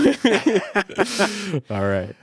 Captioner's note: both laughing